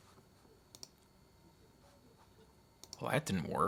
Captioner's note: mouse clicking